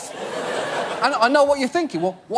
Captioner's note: audience laugh